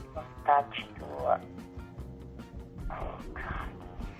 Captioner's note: speaks Italian